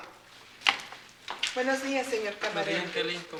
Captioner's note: speaking spanish